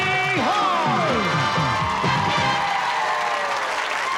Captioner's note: cheering and applause